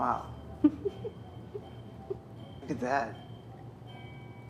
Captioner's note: Trista laughing